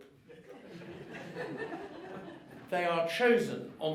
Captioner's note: audience laughing